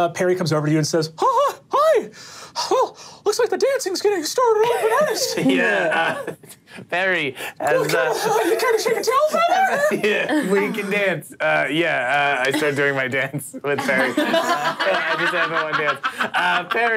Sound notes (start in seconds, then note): 10.0 all laughing